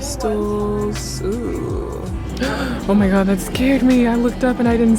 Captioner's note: gasp